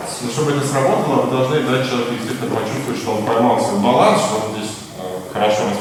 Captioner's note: speaking in a foreign language